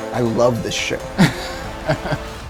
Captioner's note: laughing